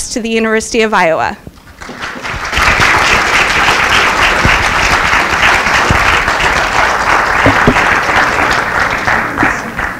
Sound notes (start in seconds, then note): 1.7 audience applause